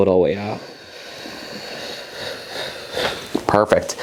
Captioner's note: exhalation